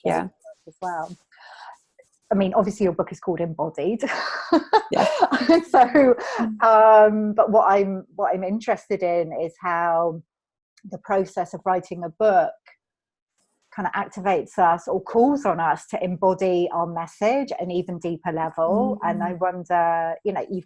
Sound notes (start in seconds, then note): 4.7 laughing